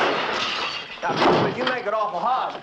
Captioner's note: glass shattering